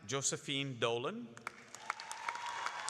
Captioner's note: applause